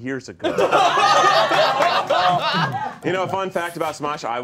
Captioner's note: all laughing